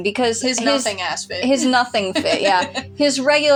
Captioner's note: laugh